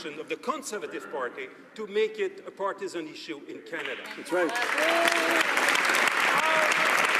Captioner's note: some Applause